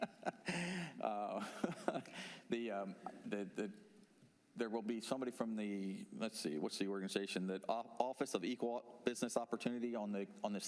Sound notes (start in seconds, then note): 3.1 laughter